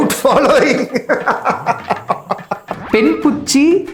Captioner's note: laughs